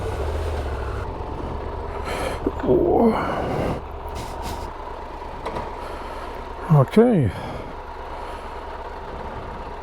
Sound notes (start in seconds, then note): 2.0 groan